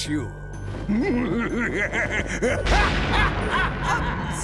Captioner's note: laughter